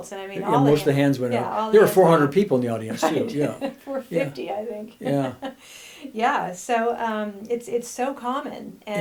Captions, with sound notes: And all the hands-- - Most the hands went up. There were 400 people in the audience, too. - (laughs) Right, 450, I think. Yeah, so it's so common.